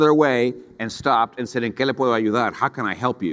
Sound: speaks in foreign language

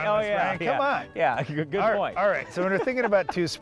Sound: laughs

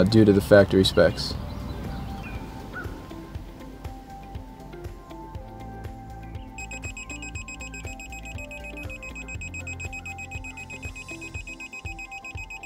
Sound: beeping of digital torque wrench

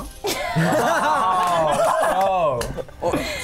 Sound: laughing

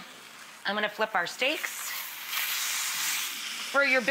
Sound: steak sizzling

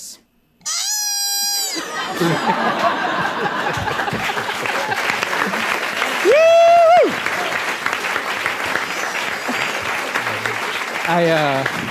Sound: ARCHIVE CLIP: koala crying

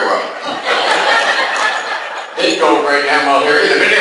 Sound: class laughs

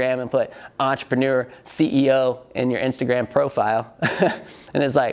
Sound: laughs

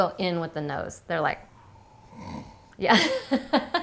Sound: sniff; laughing

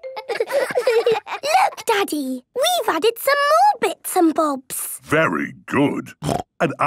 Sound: laughter

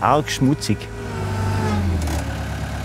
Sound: engine noise

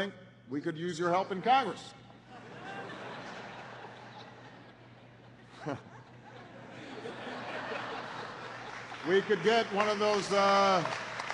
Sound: laughter and applause

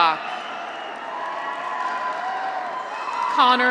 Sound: audience applauds; graduates cheer

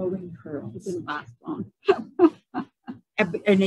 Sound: laughs

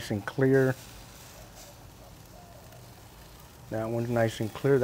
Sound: meat sizzling

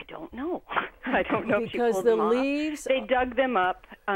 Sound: laughing

